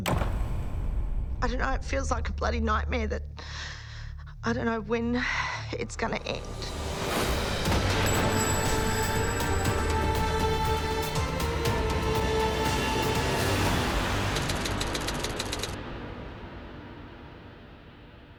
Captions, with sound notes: (door banging) - I dunno, it feels like a bloody nightmare that I dunno when (sighs) it's gonna end. (dramatic music continues) (typewriter keys clicking)